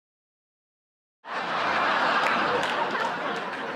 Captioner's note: audience laughing